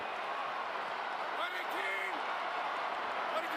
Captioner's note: crowd cheering